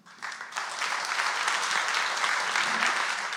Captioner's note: audience applauds